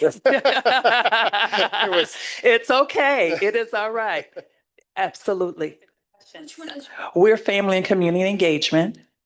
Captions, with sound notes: (laughing) It's okay, it is all right. Absolutely. We're family and community engagement.